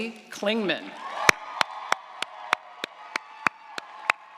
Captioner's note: audience applauds